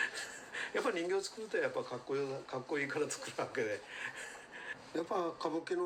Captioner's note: laughing